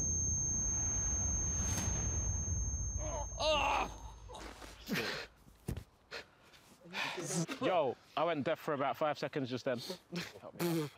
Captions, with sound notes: - [Groaning] - Shit. - Yo. I went deaf for about five seconds just then.